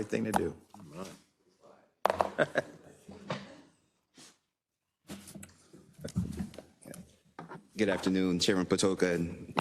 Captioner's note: laugh